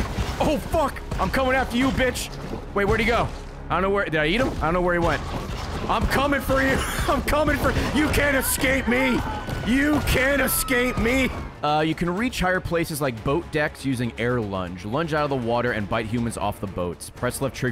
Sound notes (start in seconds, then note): 6.6 laughs